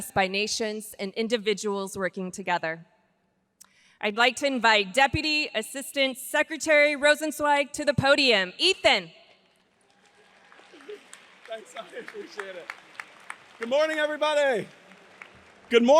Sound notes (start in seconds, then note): 9.6 audience applauds